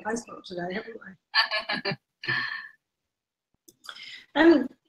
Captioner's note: laughs